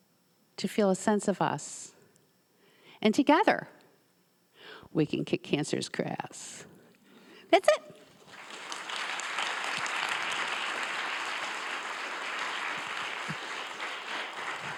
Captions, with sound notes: to feel a sense of us, and together we can kick cancer's KRAS. That's it. (audience members applauding)